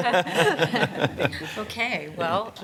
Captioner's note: laughter